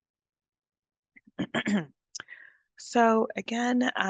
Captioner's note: clears throat